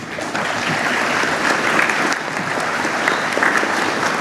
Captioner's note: clapping